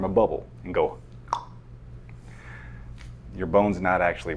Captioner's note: tongue clicking